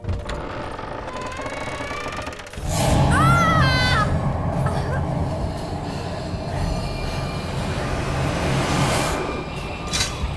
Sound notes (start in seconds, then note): 0.0 door creaks open; 2.9 scream; 6.4 rapid breaths